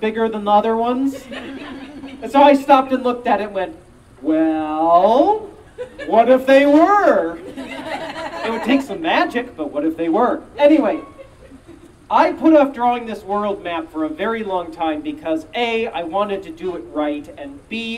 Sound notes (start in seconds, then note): 7.4 audience Laughing